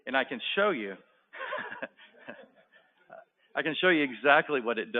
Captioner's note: laughter